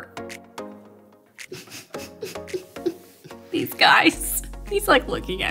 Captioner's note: fake crying